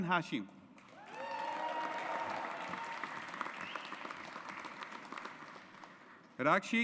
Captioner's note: audience applauds